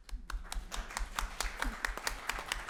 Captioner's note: applause